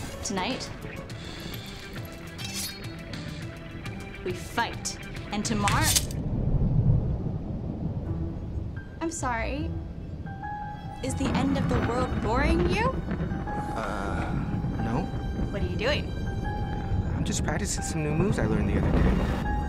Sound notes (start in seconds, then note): 2.4 sword scraping; 5.8 metal clanging